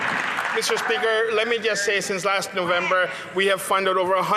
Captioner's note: some Applause